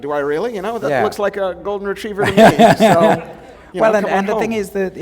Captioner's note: laughter